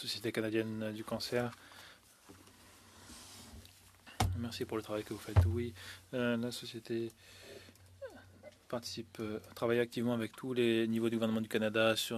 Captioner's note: speaking French